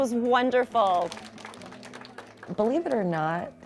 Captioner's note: kids clapping